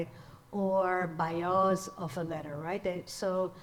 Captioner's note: speaks in foreign language